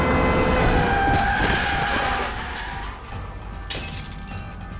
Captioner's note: brakes squeal